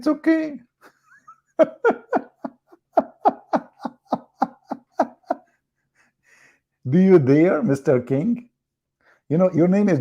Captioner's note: Ketawa